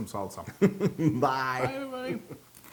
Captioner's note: laugh